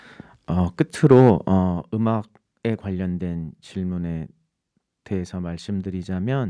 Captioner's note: speaking in Korean